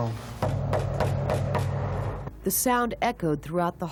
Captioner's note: knocking